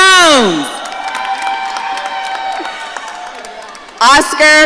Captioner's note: audience cheering